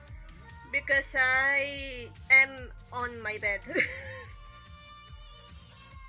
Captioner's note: laugh